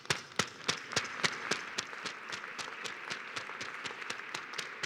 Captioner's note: applause